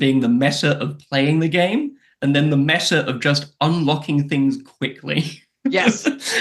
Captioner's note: laughs